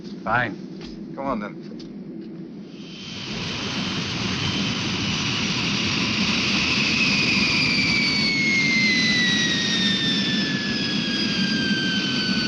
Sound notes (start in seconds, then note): 3.6 plane whirring